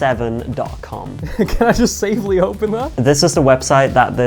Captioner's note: laughs